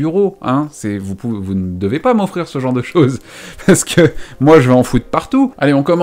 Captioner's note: chuckles